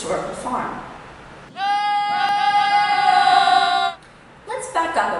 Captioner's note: goats bleating